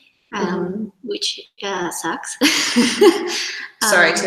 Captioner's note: laughs